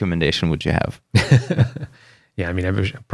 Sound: laughter

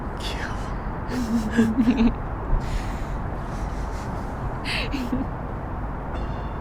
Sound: Jiwoo and Youngwon laughing

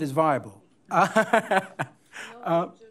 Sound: laughing

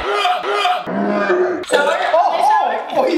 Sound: heaves; heaves in slow motion

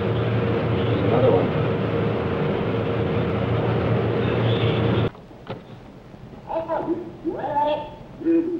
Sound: machines whir

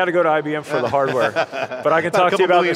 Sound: laughter

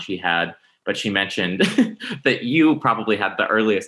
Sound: laughs

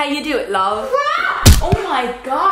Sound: screams

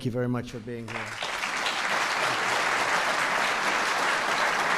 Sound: audience applauds

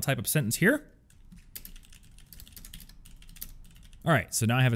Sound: keyboard clicking

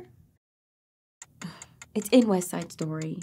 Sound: clock ticking

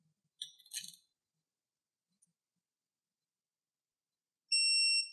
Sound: silence

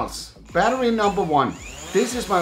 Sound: drone whirls and buzzes

